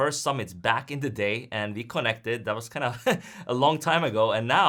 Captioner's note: laughs